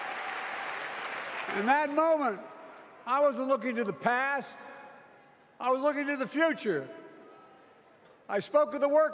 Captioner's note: applause